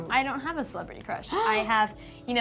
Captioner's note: gasp